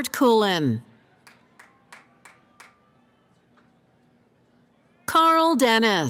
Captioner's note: applause